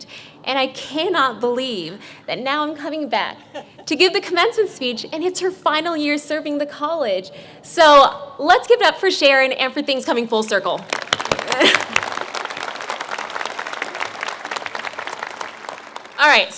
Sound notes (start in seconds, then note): 10.8 clapping